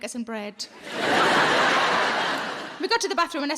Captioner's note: audience laughing